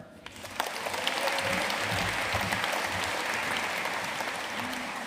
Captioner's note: audience cheering and applauding